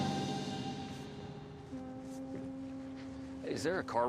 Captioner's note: boat horn blaring